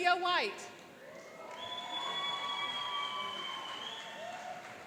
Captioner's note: cheering and applauding